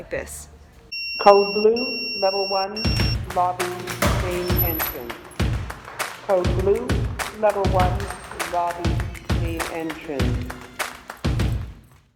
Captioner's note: beeping